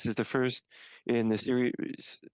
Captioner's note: speaking French